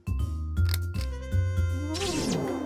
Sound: click

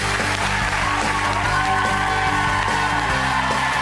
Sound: applause

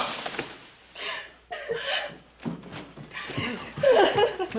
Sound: gasps; sobbing

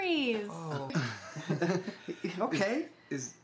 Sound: KP and L chuckle

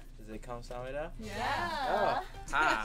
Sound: speaking Korean

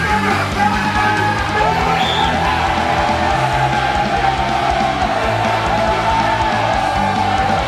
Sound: cheering

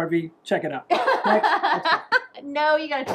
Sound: laughing

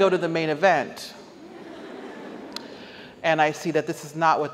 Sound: audience laughs

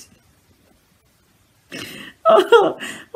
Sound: laughs

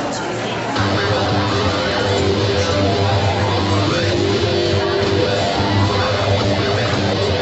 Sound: audience chattering; upbeat electronic music

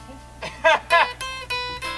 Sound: strings strum; banjo player laughs

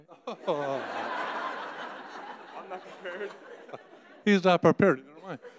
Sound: audience laughing

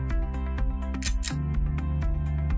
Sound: click

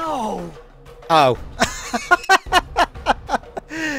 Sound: laughter

